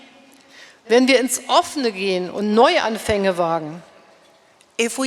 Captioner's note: speaking in German